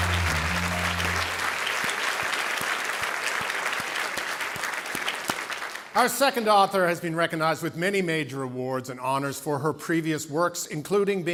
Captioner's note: cheering and Applause